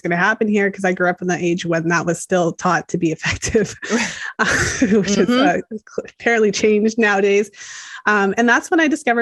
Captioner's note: laughs